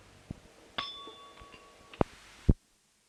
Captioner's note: bell Sound